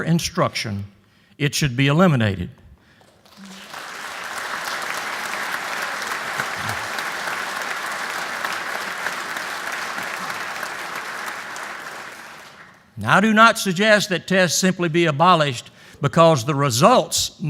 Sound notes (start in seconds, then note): 3.0 applause